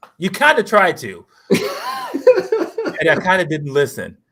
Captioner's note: laughter